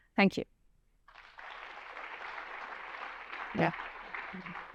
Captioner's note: applause